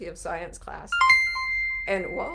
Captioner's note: computer chimes